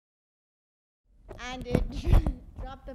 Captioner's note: speaking in Spanish